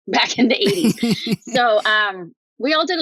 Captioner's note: laughs